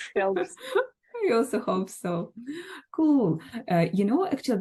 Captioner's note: both laugh